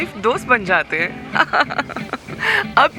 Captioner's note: laughter